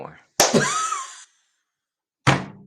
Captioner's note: laughs